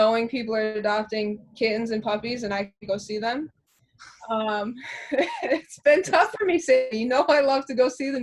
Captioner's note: laughter